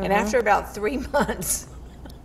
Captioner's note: laughing